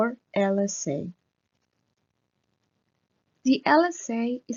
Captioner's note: click